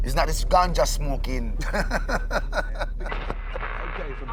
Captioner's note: laughs